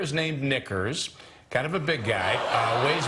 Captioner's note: audience "Oohs"